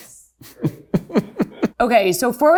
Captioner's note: laughs happily